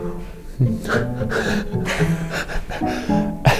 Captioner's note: laughing